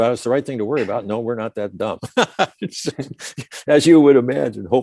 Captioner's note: laughs